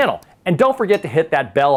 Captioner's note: mouse clicks; bell clangs